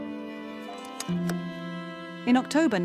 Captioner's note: slide clunking